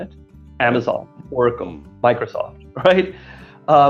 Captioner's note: laughing